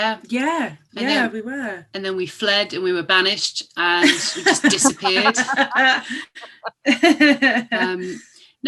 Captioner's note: laughter